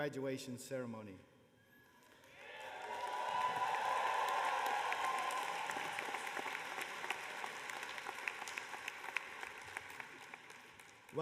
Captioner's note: cheers and applause